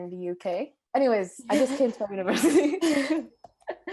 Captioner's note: laughs